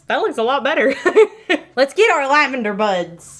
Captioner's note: laughing